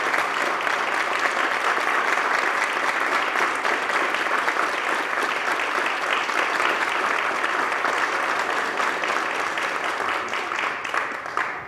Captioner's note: applause